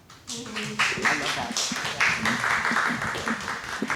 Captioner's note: audience applauds